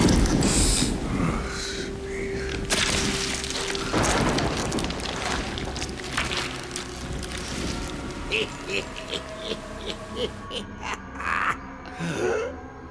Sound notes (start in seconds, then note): 2.4 thunder crashes; 5.0 rain pattering; 8.3 sinister laughter